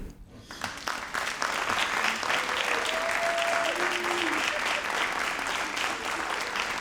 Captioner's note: all applauding and cheering